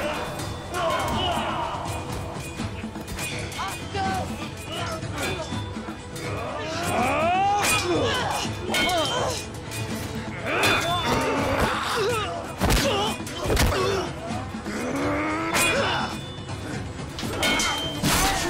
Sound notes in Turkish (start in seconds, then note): 0.0 Bağırmalar; 0.0 Kılıç Sesi; 4.7 Bağırmalar; 4.7 Kılıç Sesi